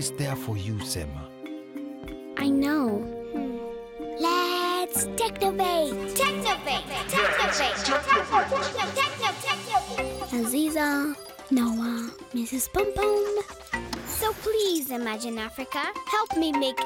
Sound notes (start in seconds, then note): 2.8 whispering; 4.8 echoing